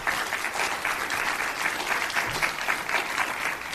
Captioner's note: applause